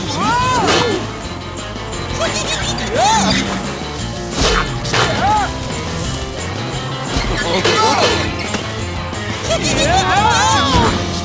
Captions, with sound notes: Whoa! - [giggling] - Whoa! - Chomp, chomp! - Ah! Whoa! - [giggling] - [screaming]